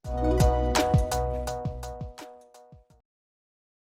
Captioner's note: bright sound